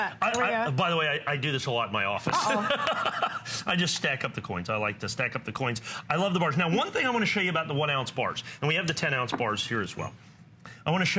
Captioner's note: laughter